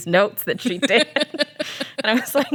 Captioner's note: laughs